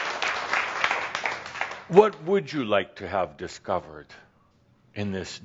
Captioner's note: applause